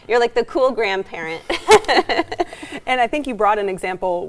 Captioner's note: laughs